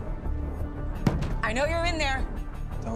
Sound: pounds on door

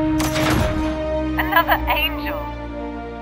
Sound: radio

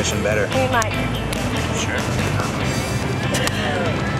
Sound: clapping

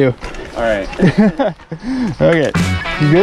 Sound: laughs

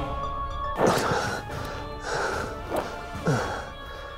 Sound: exhales sharply

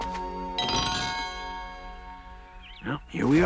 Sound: birds chirp

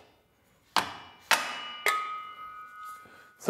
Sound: metallic ringing

